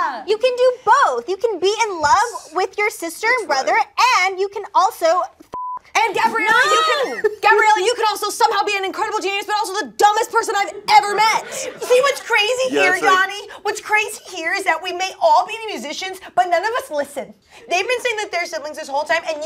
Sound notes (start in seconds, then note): 5.5 beeping